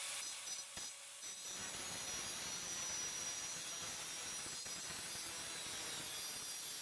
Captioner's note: high pitched sawing sounds